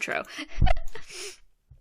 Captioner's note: croak chuckle thing